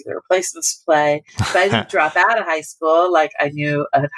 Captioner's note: laughter